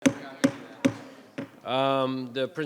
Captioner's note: people chattering; gavel thudding